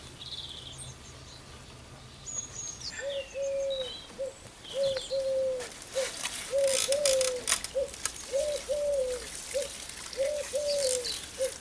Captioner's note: sound of pigeon then rustle of plastic bag